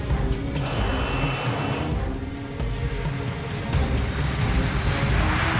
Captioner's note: airplane engine roaring; sinister music; humming; airplane engine roaring